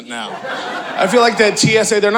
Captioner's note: audience laughing